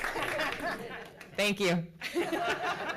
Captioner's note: claps